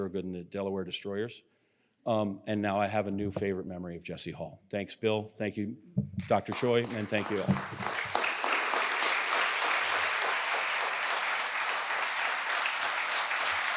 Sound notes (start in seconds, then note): 6.2 everyone applauding